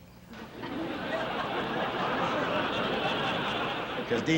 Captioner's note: laugh